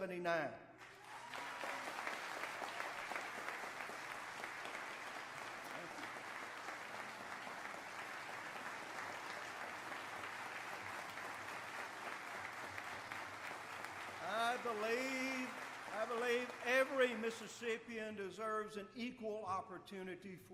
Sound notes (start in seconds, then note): 4.6 applause